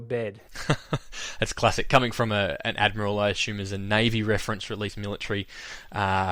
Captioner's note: laughs